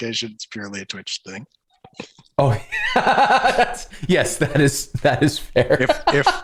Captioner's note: laughter